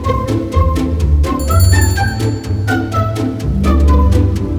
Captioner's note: doorbell chimes